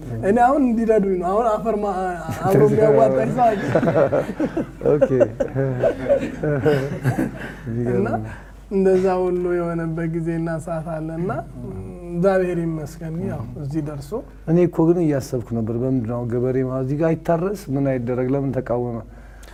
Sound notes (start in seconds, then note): 5.8 laughter; 7.6 another laughter